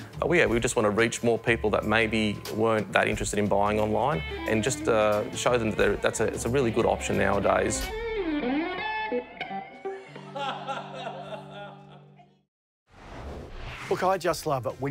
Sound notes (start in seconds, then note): 8.5 guitar music; 10.0 laughing